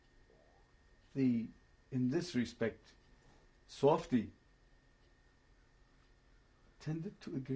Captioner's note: pauses for 3 seconds